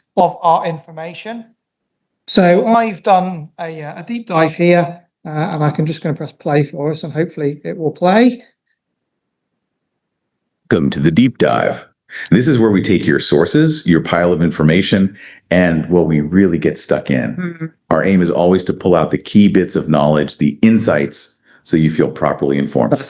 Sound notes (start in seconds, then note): 8.8 AI voice talking